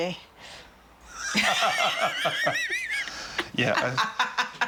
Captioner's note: laughter